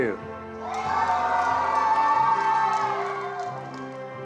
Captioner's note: attendees applauding